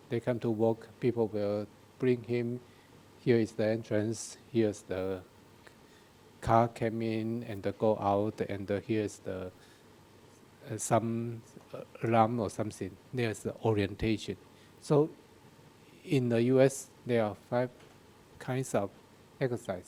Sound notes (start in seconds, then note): none